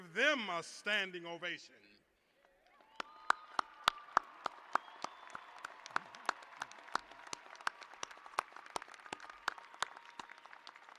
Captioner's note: cheers and applause